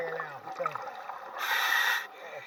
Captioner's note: equipment hissing